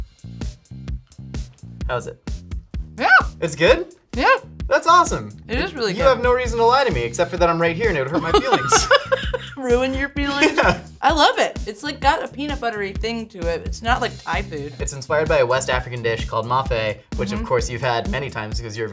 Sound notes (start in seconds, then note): 8.1 laughing